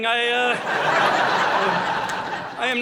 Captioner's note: audience laughing